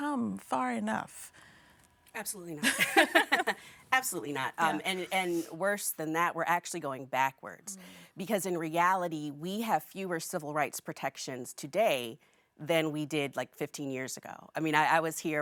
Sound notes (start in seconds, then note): 2.6 laughing